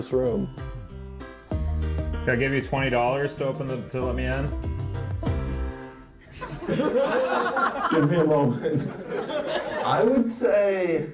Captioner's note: audience laughter